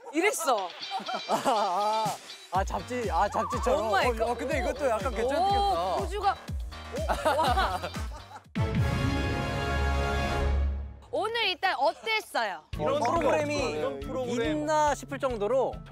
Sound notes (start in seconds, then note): 6.9 hahaha